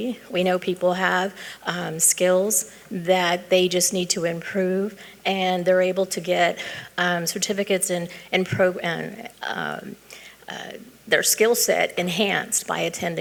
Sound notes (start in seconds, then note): none